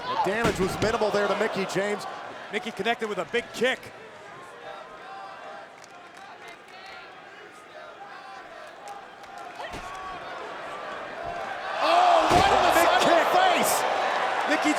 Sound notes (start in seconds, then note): 4.4 crowd chants indistinctly